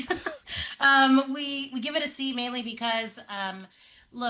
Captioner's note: laughs